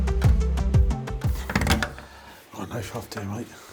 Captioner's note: creaking